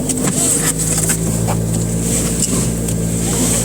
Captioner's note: seatbelts buckling